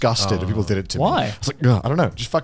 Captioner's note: all laughing